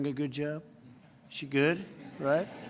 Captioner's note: laughter